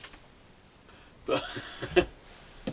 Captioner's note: laughs